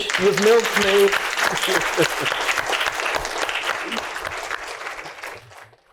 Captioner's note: applause